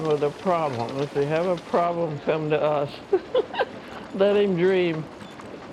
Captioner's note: laughing